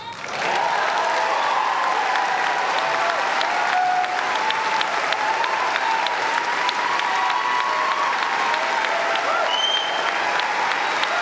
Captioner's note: applause